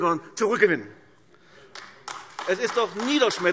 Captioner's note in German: Beifall AfD